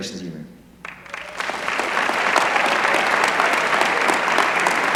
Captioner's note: applause